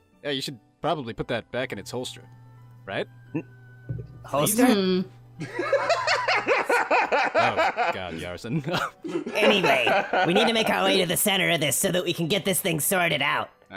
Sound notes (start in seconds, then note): 5.4 laughter